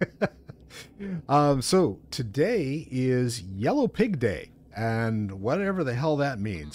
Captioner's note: laughter